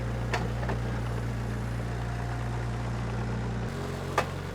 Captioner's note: engine rumbling